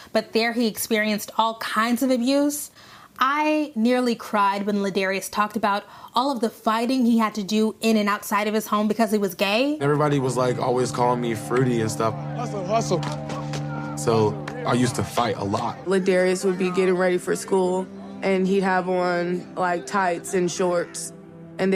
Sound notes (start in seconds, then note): 13.0 palms slapping